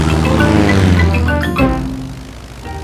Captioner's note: plane engine revving